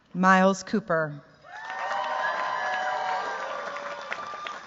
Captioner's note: cheers, applause